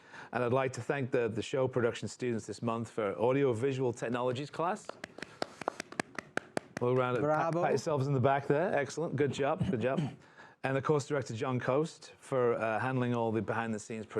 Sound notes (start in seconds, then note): 4.8 applause